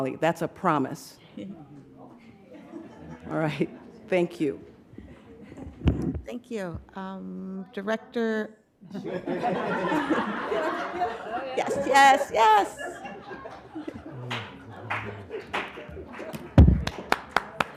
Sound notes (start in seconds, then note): 8.8 group laughing